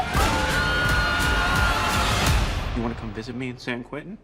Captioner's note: Chris and Ava screaming